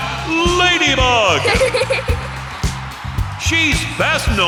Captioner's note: giggling